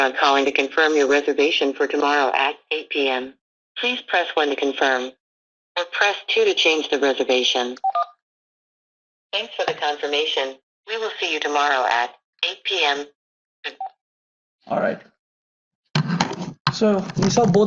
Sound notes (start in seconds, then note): 7.8 keypad beeps